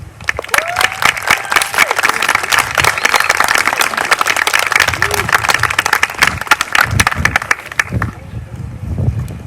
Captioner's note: applause